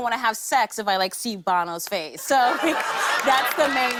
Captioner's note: laughter